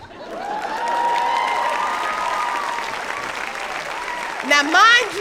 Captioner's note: audience applauding